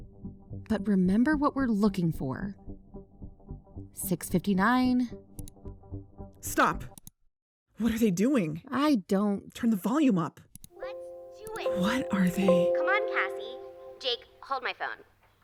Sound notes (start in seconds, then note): 5.3 click; 6.9 click